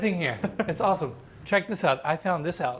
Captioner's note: laughs